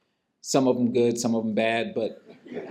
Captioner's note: laughter